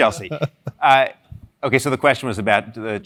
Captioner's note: laugh